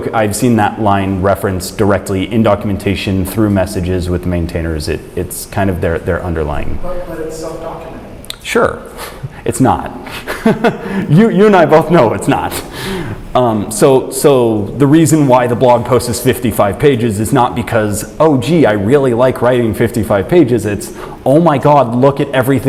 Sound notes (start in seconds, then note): 10.0 chuckles